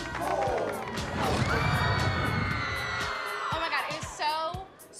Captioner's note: women screaming